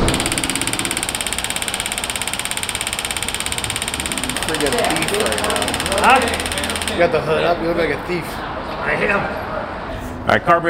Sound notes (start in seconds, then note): 0.0 tool vibrates; 4.4 background chatter